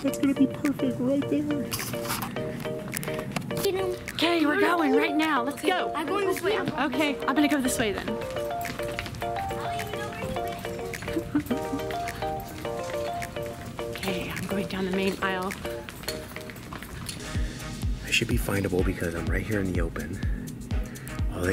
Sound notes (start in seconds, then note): 9.0 woman giggling; 17.2 intense rhythmic music